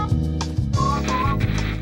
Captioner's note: television static